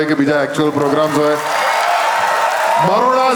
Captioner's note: crowd applauding